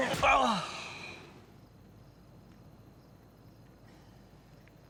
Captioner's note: Bobby groans; insects buzzing